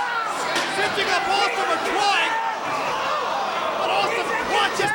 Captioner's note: crowd chattering drowns out commentator